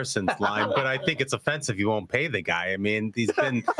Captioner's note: laughter